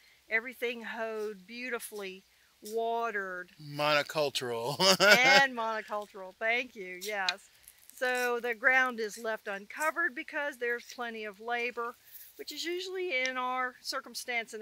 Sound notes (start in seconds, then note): 4.6 laughs